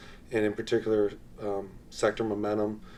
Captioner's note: none